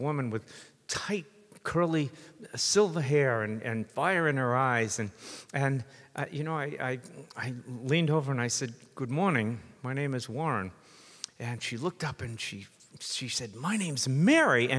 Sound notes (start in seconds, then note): none